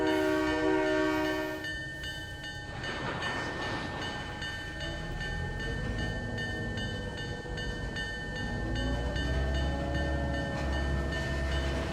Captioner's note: train whistle